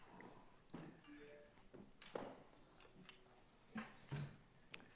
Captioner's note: device ringing